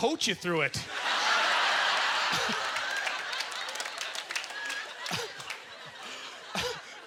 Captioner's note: audience laughter; applause